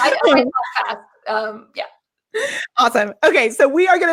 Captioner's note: laughs